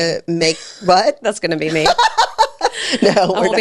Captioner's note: laughs